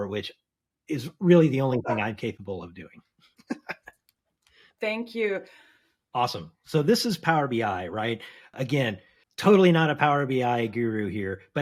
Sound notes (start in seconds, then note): 3.5 laughs